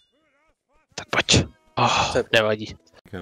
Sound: whispering

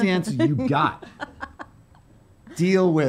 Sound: laughing

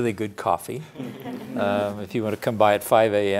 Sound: laughing

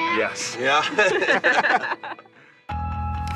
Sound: laughter

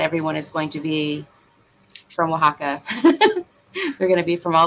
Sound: laughs

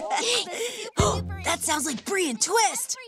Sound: gasps

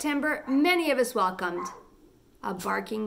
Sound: puppy barking

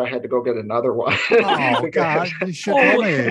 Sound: laughter

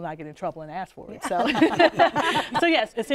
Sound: laughter

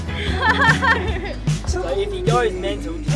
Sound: laughing

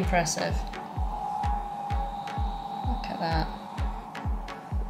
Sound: screams from Stampeda

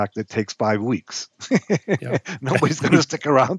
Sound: laughing

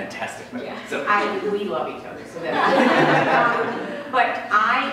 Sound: laughter

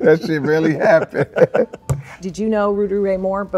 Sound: laughing

